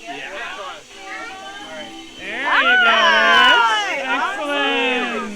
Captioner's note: magical sound as Hogwarts crest changes to Gryffindor